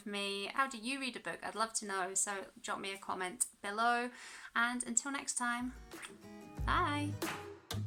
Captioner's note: kiss